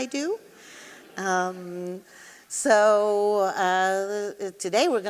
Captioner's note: audience laughing